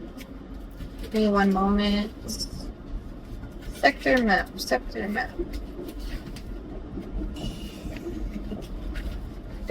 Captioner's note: blows air